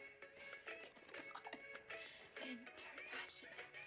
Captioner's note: laughing